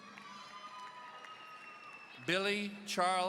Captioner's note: audience cheering